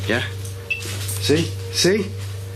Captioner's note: beeping